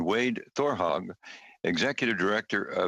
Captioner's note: speaking FRENCH